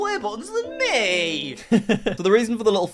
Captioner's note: laughing